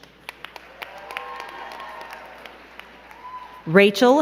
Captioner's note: crowd cheering and clapping